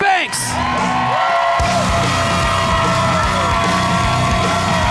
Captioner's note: audience cheers